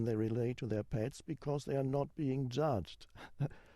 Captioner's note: chuckles